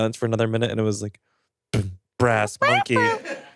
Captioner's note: imitates drum beats